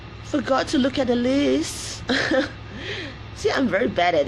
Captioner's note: laughs